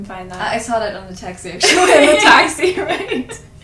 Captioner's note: laughs